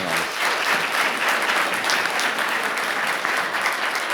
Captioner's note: audience applauding